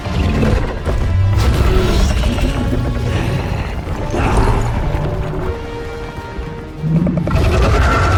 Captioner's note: growling